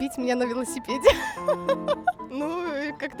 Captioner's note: laughter